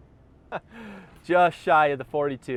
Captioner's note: laughs